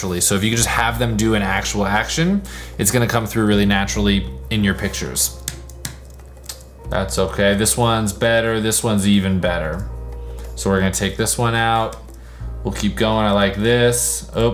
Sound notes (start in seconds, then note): 5.4 keyboard clicking